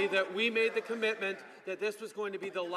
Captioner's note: some Applause